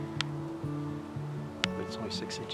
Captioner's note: bill clicks